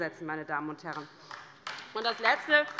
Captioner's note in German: Beifall bei der LINKEN